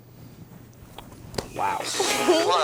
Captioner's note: roars